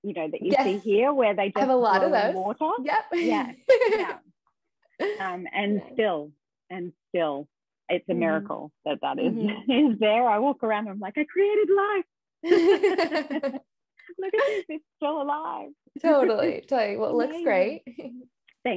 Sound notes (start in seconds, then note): 3.2 laughs; 12.5 both laughing